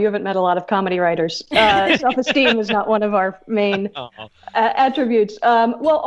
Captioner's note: hosts laugh